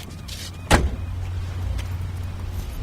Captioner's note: car door slams